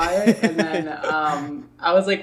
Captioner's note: laughs